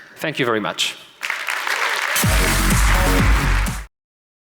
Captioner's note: applause